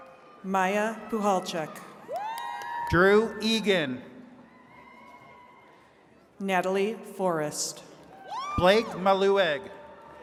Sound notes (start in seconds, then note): 1.2 attendees cheering